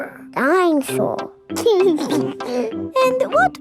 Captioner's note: giggles